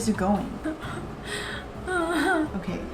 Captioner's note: cries